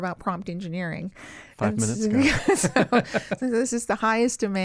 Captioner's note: chuckle